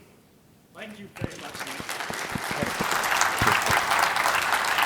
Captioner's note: applause